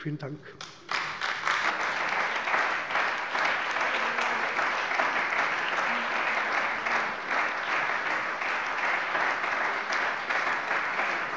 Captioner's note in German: Beifall bei der CDU und dem BÜNDNIS 90/DIE GRÜNEN